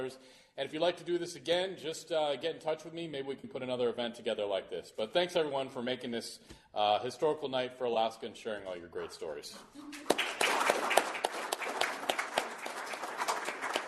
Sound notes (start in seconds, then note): 9.9 applause